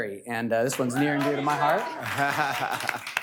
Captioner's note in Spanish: aplausos